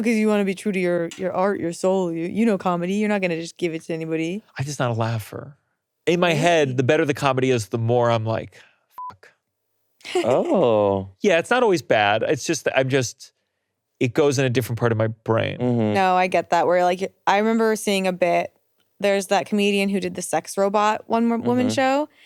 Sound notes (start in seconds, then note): 9.0 beeps; 10.0 laughing